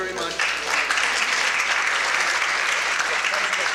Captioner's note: applause